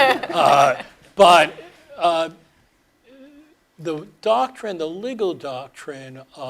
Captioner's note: laugh